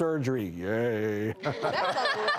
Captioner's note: laughing